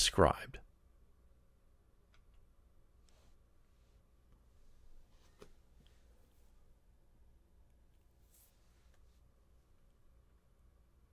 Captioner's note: pause